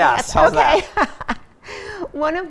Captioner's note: laughing